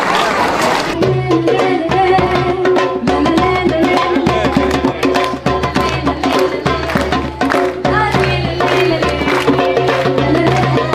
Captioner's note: cheering/Applause